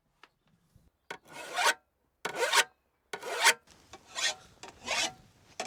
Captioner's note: metal scraping